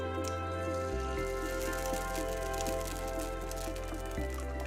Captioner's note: egg sizzling